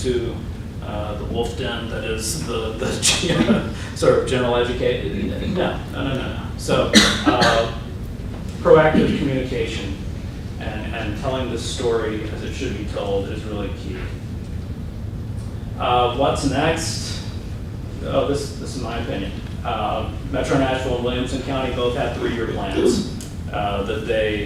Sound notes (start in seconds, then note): 6.9 cough